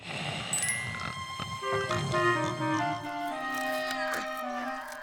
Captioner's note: snoring